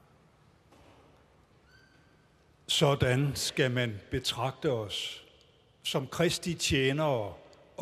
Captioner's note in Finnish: Tanskaa